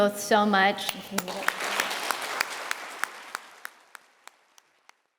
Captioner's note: applause